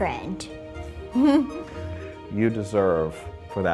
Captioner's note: laughs